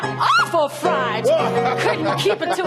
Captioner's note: laughs